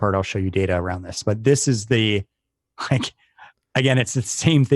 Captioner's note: laugh